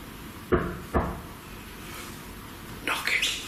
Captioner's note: banging sound